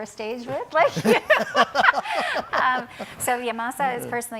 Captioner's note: laughs